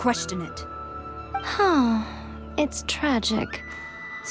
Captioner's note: sigh